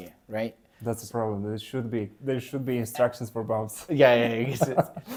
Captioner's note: laughs